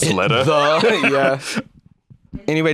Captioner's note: laughs